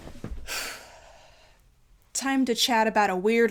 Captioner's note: sighing